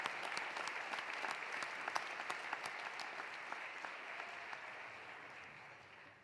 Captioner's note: cheering continues; applause continues